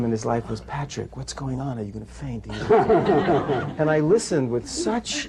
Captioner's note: laughter